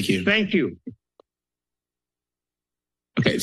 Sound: silence

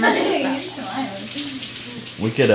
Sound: water trickling

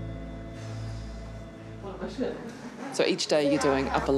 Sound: exhales

